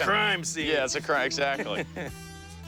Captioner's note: laughs